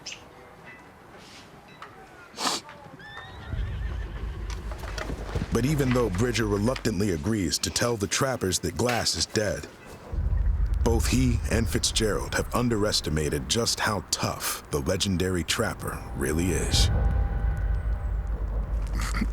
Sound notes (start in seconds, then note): 2.4 sniffs; 3.0 horse neighs